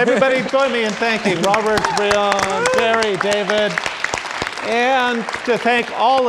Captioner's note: audience applauding